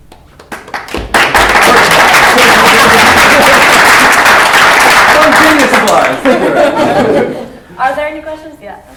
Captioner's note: applause